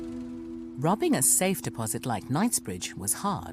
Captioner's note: voiceover